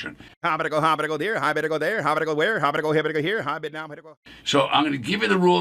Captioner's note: auctioneer speaking fast